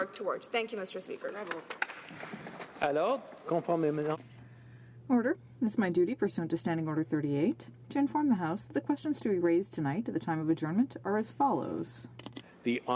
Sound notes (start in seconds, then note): 10.1 speaking French